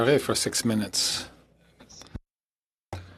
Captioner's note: speaking French